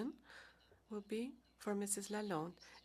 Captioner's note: speaking French